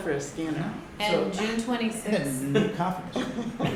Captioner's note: laughter